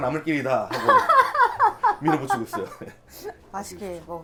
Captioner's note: haha